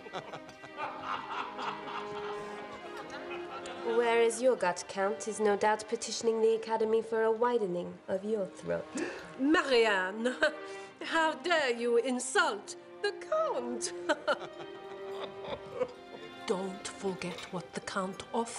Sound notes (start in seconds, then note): 0.0 laughter spreads; 9.0 gasping